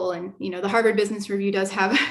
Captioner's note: laughter